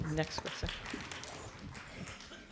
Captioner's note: audience clapping